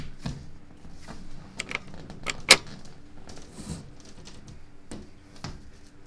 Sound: front door unlocks and opens

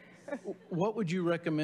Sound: laughing

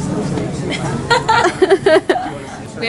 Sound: laughter

